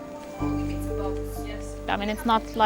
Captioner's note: people chattering